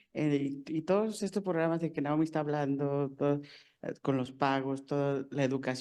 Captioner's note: speaking in foreign language